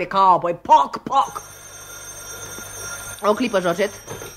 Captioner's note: the phone rings